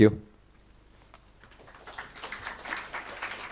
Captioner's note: applause